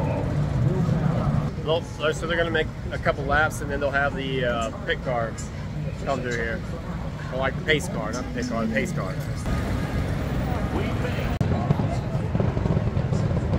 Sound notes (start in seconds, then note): 0.0 engine Revving; 9.3 engine Revving